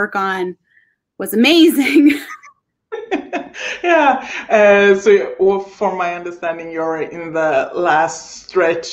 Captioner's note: laughing